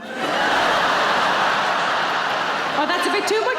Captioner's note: audience laughing